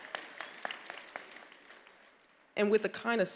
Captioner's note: attendees applauding